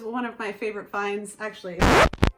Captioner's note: record scratch